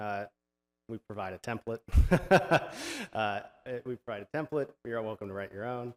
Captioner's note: chuckles